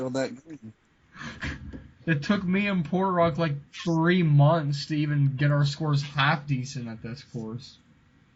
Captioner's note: laughing